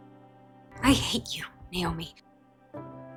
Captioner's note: voiceover